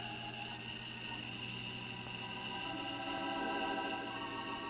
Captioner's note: insects chirping; stirring music